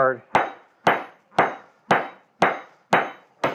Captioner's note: metal clangs